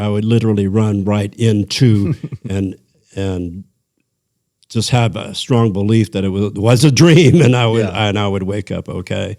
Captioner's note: laughter